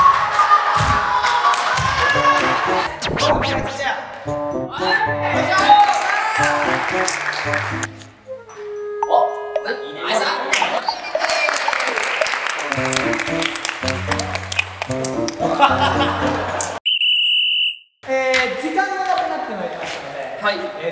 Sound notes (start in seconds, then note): 7.1 cheering; 11.0 clapping and cheering; 15.4 laughing